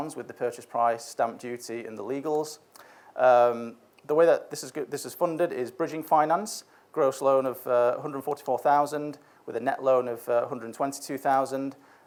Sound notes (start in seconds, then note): none